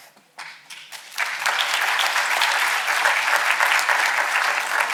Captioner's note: audience applauding